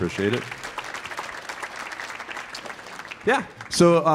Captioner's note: audience applauding